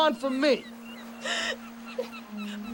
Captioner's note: birds chirping; Margaret crying